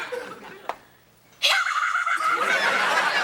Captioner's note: Ethan cheers; audience laughing